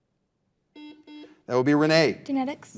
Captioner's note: buzzer buzzing